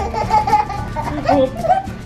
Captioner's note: giggles